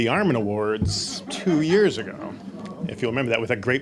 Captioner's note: audience laughing